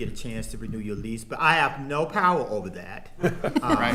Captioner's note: attendees laughing